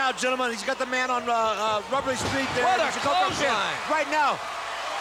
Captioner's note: crowd cheers